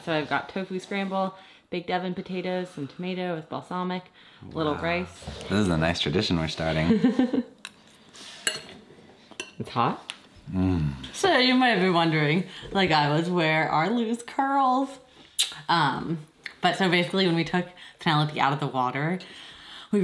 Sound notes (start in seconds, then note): 6.8 chuckling; 15.3 smooching